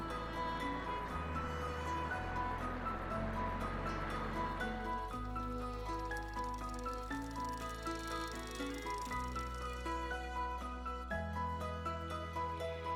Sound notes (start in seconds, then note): 0.2 contemplative music continues; 4.4 bicycle chain turns; 10.6 contemplative music continues